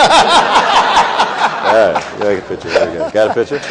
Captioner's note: people laughing